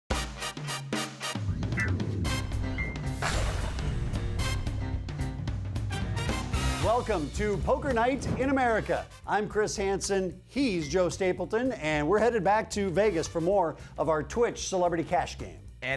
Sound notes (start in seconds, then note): 0.1 upbeat music; 7.1 voiceover